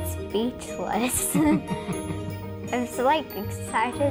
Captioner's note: laughs